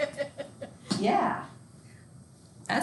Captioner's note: student laughing